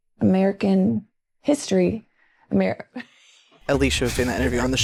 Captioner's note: laughing